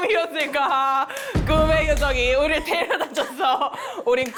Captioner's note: climactic sound